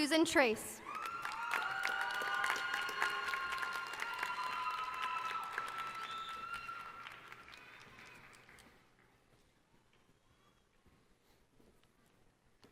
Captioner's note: applause